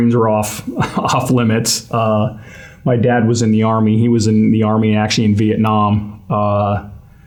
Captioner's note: laugh